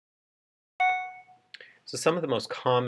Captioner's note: computer chime